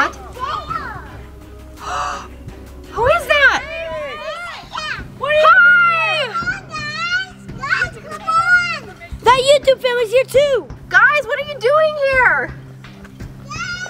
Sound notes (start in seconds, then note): 1.7 gasping; 2.9 people shouting